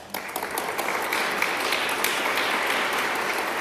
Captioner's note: applause